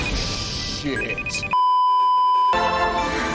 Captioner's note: beeeeeeeeeeeep